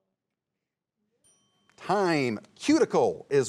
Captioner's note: bell dinging